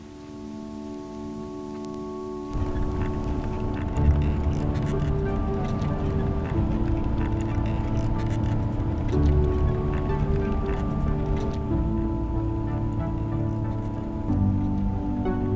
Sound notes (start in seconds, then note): 3.5 welcoming cat waving sound